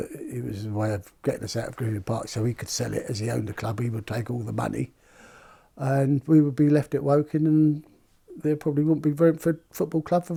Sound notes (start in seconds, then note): none